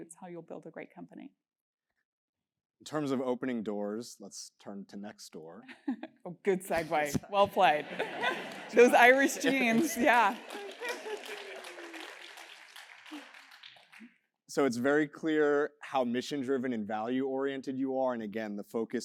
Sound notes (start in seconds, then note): 7.7 laugh; 12.1 applause